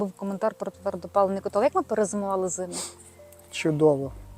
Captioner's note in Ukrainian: сопіння